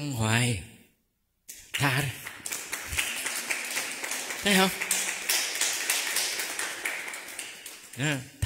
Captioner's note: clap